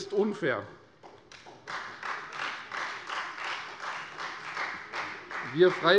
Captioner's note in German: Beifall Freie Demokraten